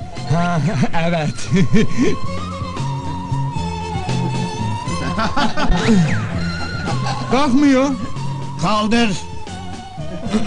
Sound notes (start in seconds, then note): 4.0 laughing